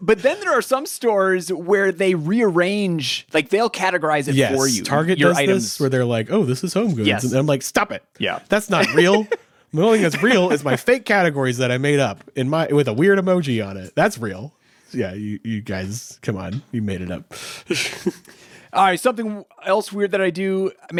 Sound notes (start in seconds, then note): 9.8 laughing; 17.6 chuckles